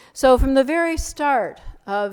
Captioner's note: none